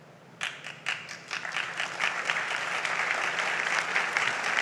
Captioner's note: audience applauds